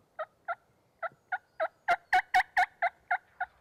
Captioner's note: turkey calls